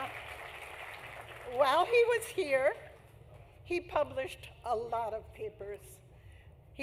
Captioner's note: applause